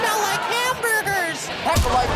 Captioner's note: audience laughs; high Pitched Voice